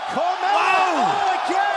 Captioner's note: crowd cheering